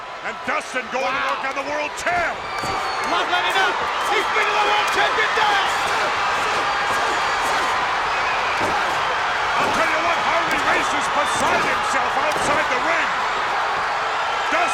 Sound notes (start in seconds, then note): 6.3 spectators cheering